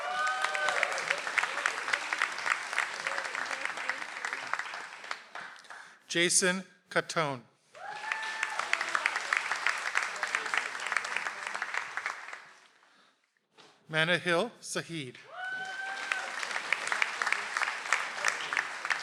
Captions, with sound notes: (audience applauds) - Jason Catone. (audience applauds) - Manna Hill Saheed. (audience applauds)